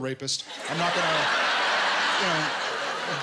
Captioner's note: laughter